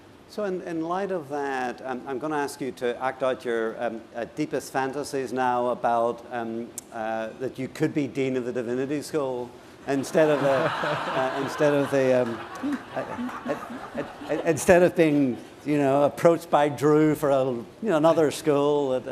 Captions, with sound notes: So in light of that, I'm going to ask you to act out your deepest fantasies now about-- that you could be dean of the Divinity School-- [LAUGHTER] --instead of being approached by Drew for another school